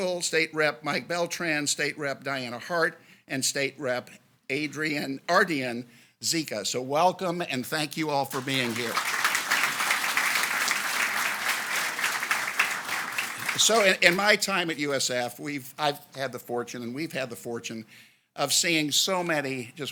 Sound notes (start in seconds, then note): 8.3 audience applauds